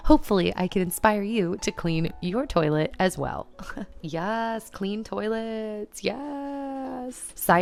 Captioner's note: laughter